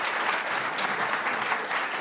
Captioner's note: audience applauding